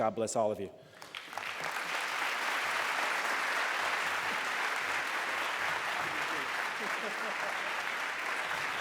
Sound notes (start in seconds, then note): 0.9 applause